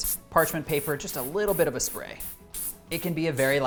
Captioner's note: bottle spraying